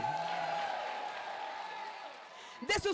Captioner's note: crowd applause